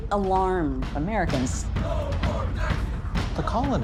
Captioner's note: chanting